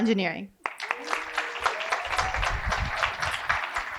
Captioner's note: applause